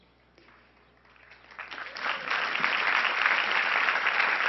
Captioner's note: crowd applauding